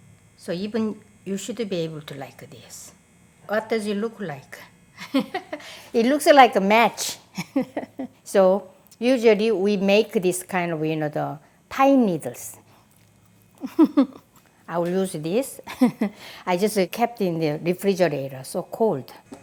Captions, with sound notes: so you should be able to do like this. What does it look like? It looks like a match! (laughs) We usually make this with pine needles. (laughs) I just kept this in the refrigerator, so it's very cold.